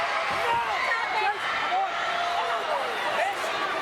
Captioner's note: crowd yelling